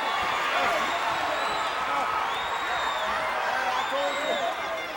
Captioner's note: crowd cheering